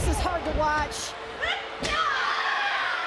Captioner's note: screams in pain